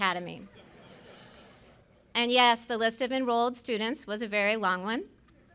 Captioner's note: laughter